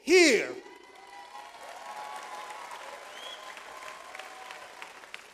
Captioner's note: audience applauds